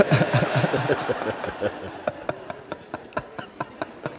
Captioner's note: laughter